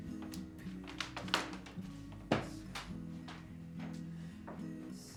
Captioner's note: floor creaking